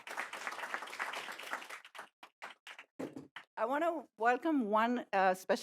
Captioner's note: applause